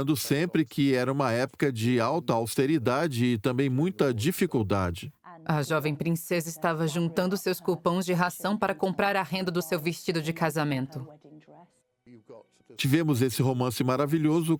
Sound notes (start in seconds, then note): 5.2 voiceover